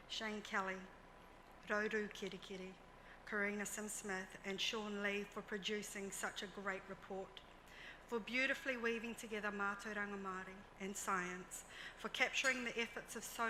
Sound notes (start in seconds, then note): 9.3 speaks in foreign language